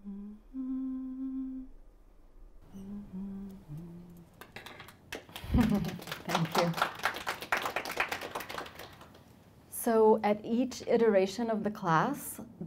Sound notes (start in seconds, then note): 5.3 chuckles